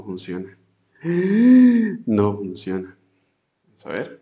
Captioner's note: gasp